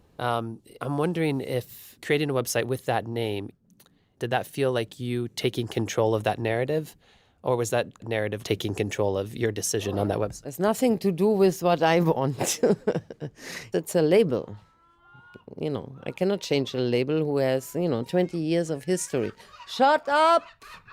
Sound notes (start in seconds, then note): 15.8 laughs; 18.8 ducks quacking